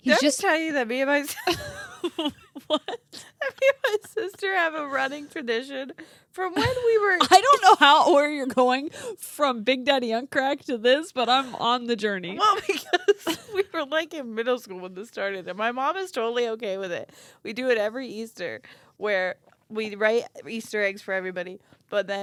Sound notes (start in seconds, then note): 0.0 laughing; 1.3 laughing